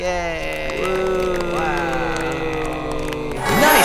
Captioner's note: cheering